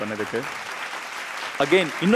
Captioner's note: audience claps